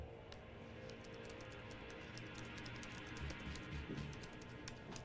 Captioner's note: laptop keyboard clicking